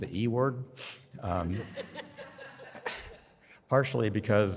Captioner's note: audience laughs